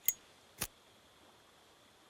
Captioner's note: ignites lighter